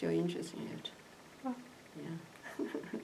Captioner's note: laughs